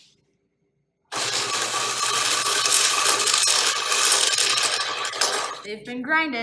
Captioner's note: metallic grinding noise